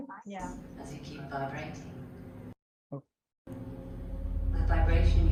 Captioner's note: female voice